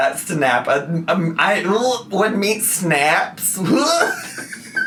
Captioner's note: laughs; gags